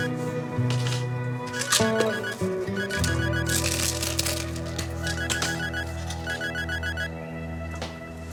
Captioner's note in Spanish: Suena el celular; Sonido al manipular las pastillas